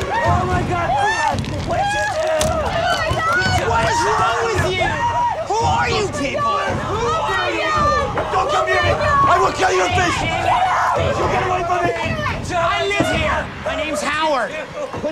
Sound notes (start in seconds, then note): 0.0 screams; 4.8 screams